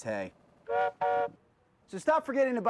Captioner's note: train whistle blowing